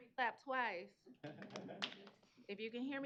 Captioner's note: clapping